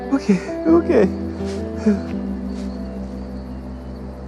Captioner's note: whimpers